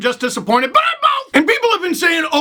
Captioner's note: shouting